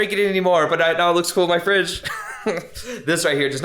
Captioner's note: chuckles